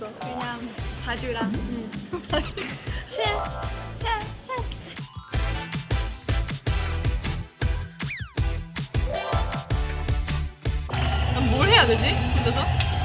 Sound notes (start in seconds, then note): 8.0 slap